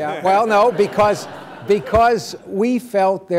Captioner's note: laughter